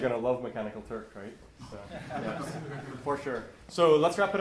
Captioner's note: laughter